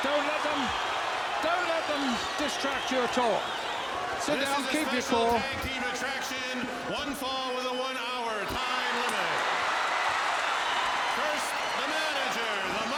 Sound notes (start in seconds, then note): 9.9 audience cheering